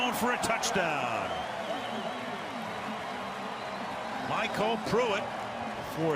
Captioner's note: cheering